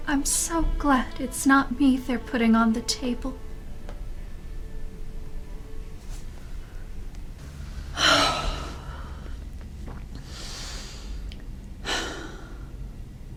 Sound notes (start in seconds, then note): 7.3 woman breathing